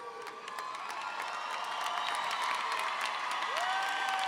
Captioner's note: audience cheers